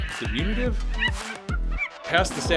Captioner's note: happy ape noises